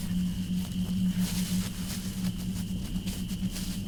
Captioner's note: footsteps in the undergrowth